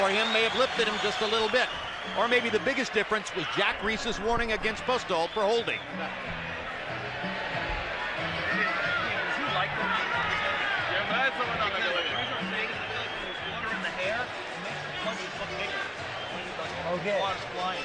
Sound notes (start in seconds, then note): 8.9 speaking Ukrainian